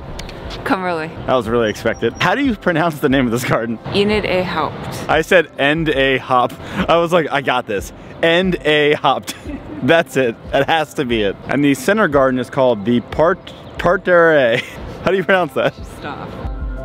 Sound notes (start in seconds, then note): 8.8 chuckling